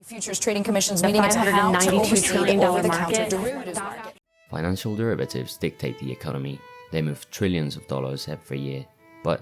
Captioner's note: news in background